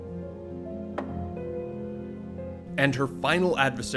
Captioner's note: wooden thump